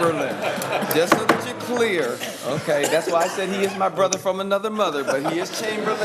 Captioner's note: laughter